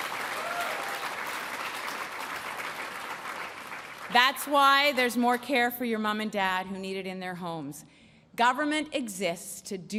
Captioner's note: applause